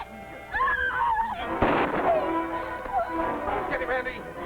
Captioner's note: screams; gun fires